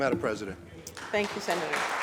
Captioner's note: applause